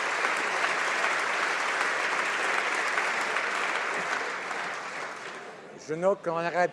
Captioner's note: applause